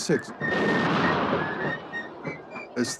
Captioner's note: cannon fires